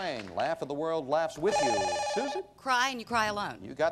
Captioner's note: bell rings